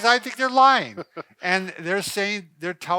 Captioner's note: laughing